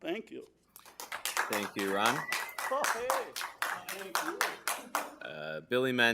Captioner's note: applause